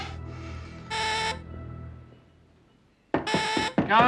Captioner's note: doorbell buzzing; knocking on door